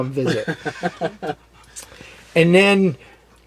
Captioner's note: laughs